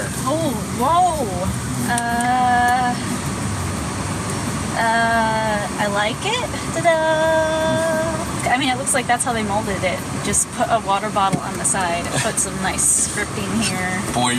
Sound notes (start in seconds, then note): 5.1 uncertainly